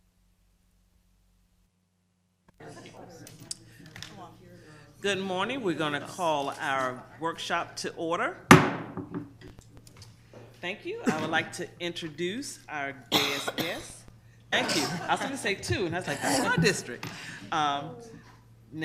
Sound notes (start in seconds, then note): 8.5 gavel banging; 14.5 people laughing